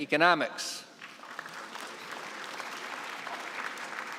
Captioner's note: applause